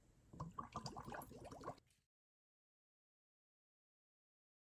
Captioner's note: water bubbles